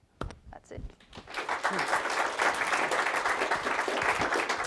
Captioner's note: class applauds